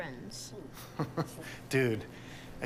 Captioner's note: laughs